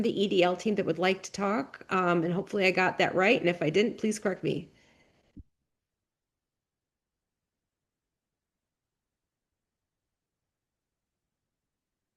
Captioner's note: long pause